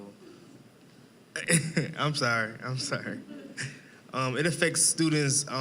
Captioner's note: laughing